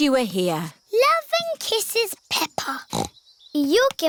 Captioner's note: snorts